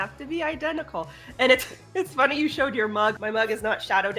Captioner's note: laughing